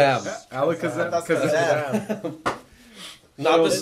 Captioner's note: laughs